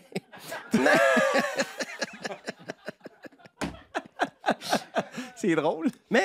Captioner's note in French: rires